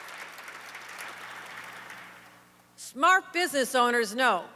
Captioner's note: applause